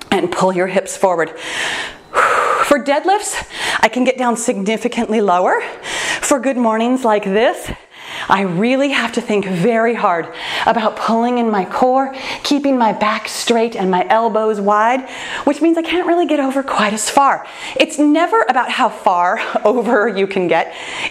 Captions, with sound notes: and pull your hips forward. (sighs) For dead- lifts, I can get down significantly lower, for good mornings like this, I really have to think very hard about pulling in my core, keeping my back straight and my elbows wide, which means I can't really get over quite as far. It's never about how far over you can get,